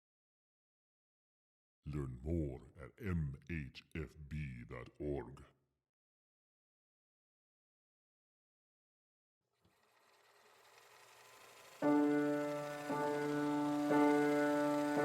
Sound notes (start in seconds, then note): 9.6 film reel whirring; 11.8 calm piano music